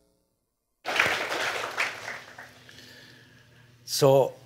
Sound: applause

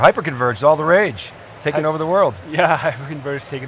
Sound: laughs

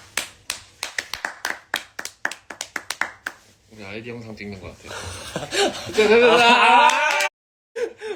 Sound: applause; applause

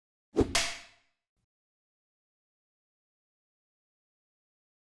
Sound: clapboard snaps shut

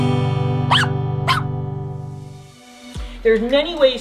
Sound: dog barking

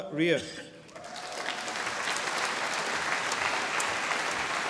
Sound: audience applauding

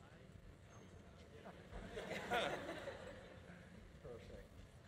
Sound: audience laughing

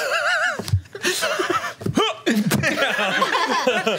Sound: laughs

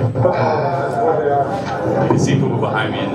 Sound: chatter

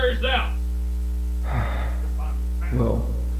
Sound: sigh

